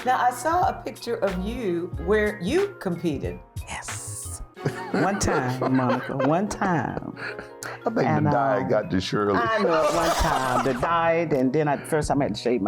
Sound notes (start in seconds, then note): 9.5 laughing